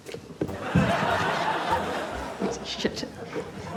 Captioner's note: laughter